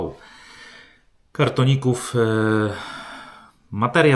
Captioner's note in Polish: westchnienie